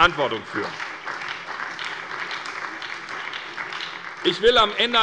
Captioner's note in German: Beifall bei der SPD und bei Abg. des BÜNDNISSES 90/DIE GRÜNEN